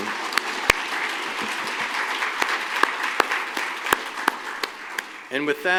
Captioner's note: applause